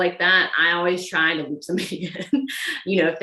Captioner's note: laughs